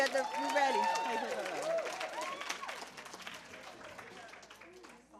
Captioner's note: applause